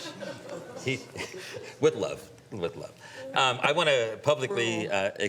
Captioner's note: some Laughter